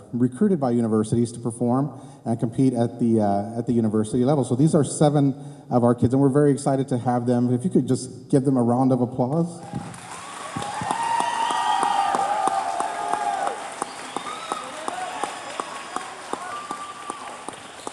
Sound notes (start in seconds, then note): 9.6 cheers